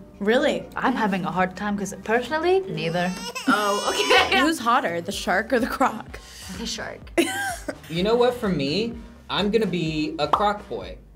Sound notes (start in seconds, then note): 2.8 baby cries; 3.0 laughs; 7.2 React laughs